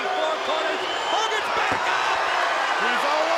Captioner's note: crowd cheering